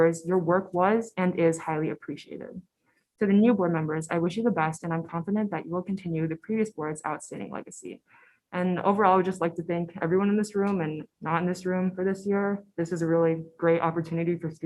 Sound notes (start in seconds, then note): none